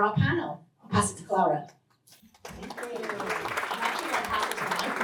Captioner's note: applause